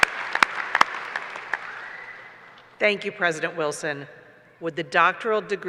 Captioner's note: applause